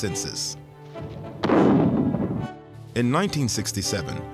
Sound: gunshot

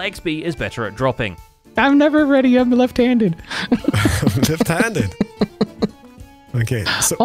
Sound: laughs; chuckles

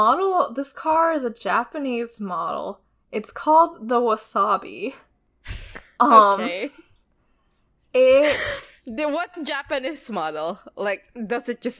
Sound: laughs

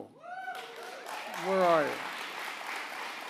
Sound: applause

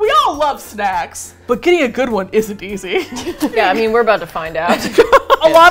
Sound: laughs; both laugh

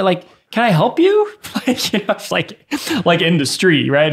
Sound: innocent chuckles

